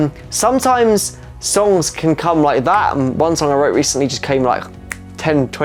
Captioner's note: clicks fingers